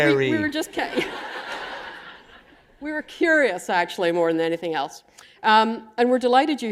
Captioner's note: laughter